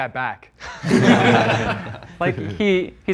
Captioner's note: contestants laughing